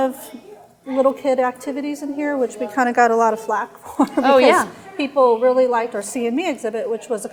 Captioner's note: chuckle